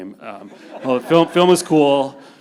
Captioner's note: panelists and audience laughing